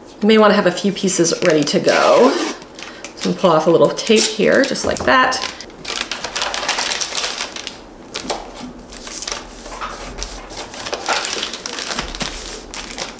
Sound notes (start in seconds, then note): 5.2 paper crinkling